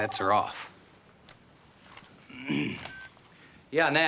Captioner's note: phone ringing; clears throat